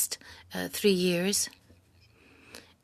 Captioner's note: speaking French